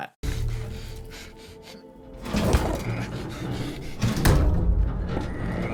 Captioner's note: game character breathing heavily